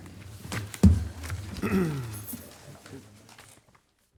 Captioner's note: papers shuffling